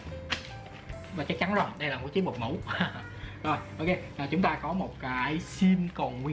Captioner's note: haha